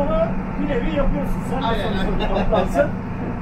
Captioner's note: laughing